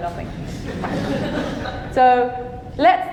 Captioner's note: audience laughing